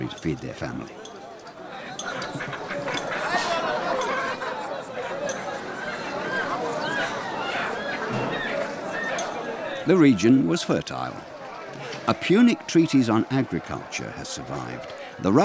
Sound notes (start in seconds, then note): 1.6 chickens squawking; 2.0 people chattering